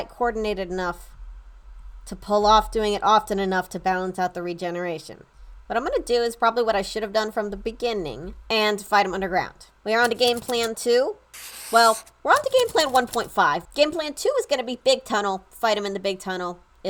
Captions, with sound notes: coordinated enough to pull off doing it often enough to balance out the regeneration. What I'm going to do is probably what I should have done from the beginning and fight them underground. We are on to game plan 2 [typewriter clicking]. Well, [marker draws, typewriter clicking] we're on to game plan 1.5. Game plan two is going to be big tunnel, fight him in the big tunnel,